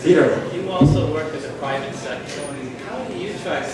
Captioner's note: voiceover